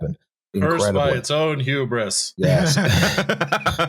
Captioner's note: monotone; laughter